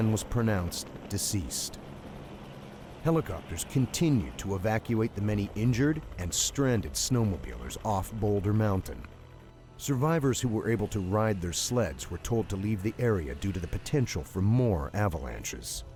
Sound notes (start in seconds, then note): 9.7 voiceover